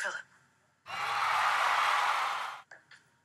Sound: crowd cheering

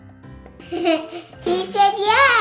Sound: laughs

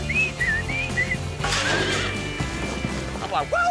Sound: whistling; horse neighs

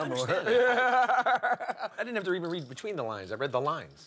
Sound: laugh

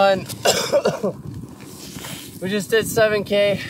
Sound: coughing

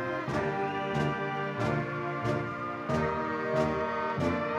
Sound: audience cheering

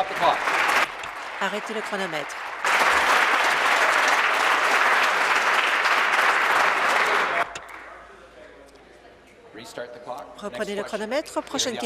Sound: applause

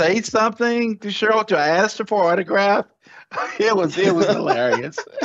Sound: laughs; laughter

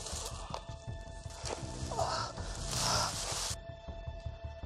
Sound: growl

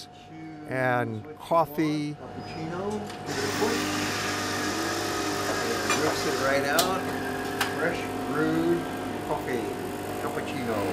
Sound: coffee machine noise

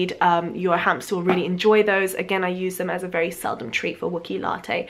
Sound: none

